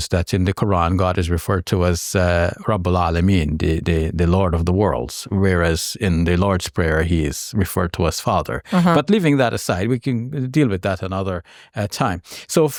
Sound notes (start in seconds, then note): 2.4 speaks in Arabic